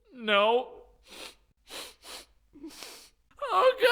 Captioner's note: Aang Sniffles